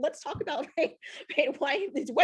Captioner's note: chuckles